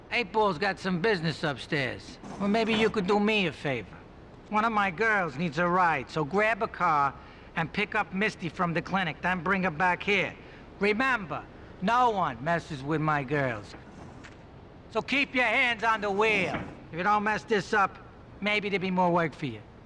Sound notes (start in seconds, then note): none